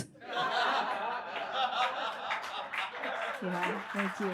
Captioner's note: audience laughs and claps